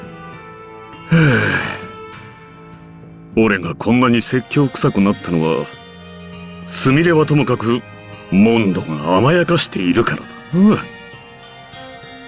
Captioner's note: sigh